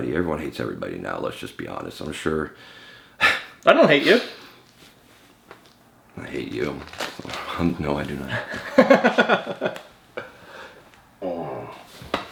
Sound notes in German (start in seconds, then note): 8.3 lacht